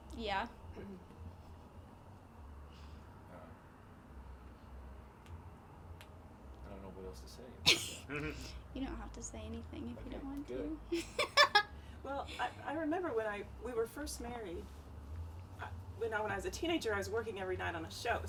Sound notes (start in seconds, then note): 10.9 laughing